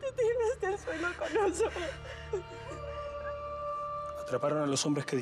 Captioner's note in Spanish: llanto